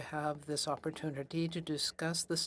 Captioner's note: speaking French